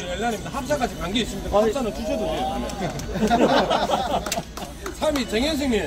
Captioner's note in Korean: 하하하하